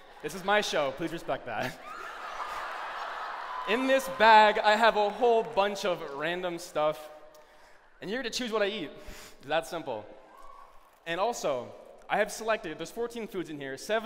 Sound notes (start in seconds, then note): 1.6 laughter